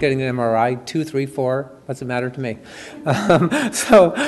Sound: chuckles

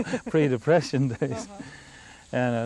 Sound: laughter

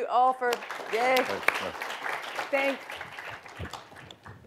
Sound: applause

